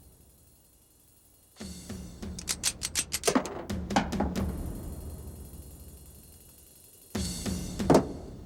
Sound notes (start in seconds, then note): 2.3 gun clicking; 2.3 bullets thudding